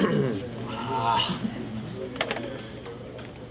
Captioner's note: clicking the mouse rapidly